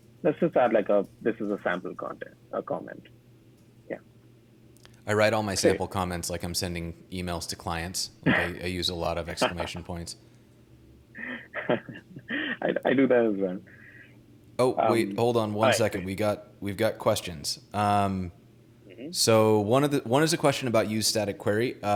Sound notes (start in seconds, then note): 11.1 laughing